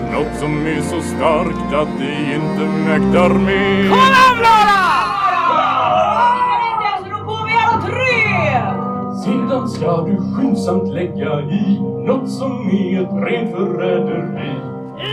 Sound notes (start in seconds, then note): 5.2 captains shout and fall